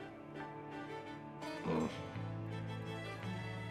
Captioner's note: grunts